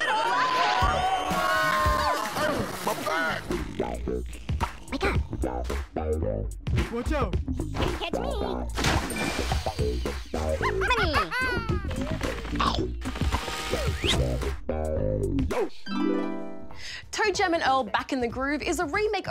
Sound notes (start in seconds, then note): 10.3 laughs; 12.5 chomp!